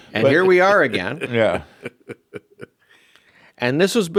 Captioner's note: laughs